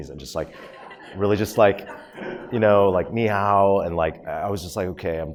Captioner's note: speaks Chinese words